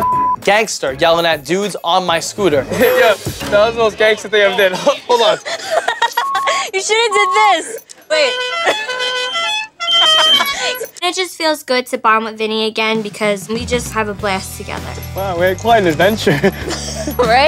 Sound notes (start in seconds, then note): 4.5 chuckles; 5.9 scooter beeping; 10.2 laughs